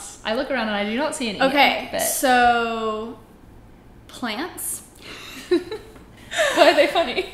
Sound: laughs

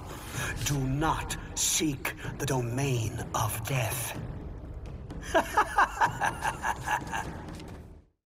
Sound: laughs

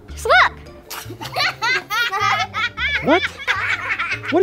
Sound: laughter begins

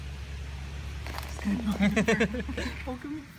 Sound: laugh

